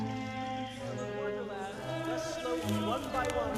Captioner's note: voiceover